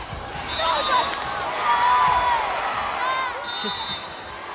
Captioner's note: crowd and players cheering; whistle blows